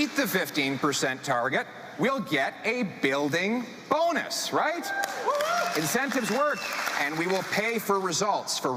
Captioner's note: speaking French